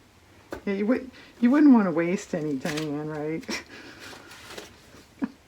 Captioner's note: laughs